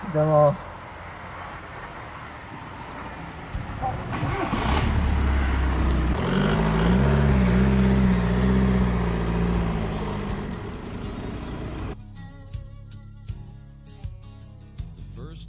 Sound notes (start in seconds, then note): 4.3 car engine